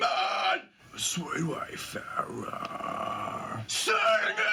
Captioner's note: whispering